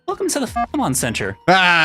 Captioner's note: beep